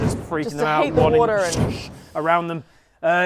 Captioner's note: swoosh